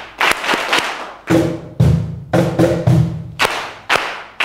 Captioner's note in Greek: χειροκρότημα